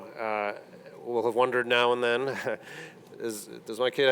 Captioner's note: laughs